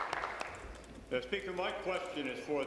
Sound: applause

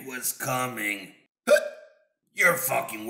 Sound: hiccup

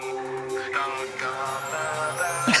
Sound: all laughing

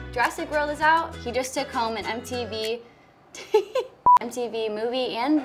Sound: laughs

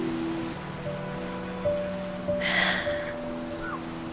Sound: The Knight sighs

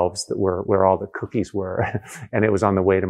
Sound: laughs

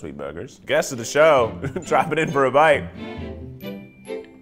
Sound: chuckling

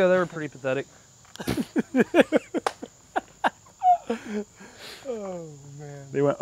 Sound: laughter

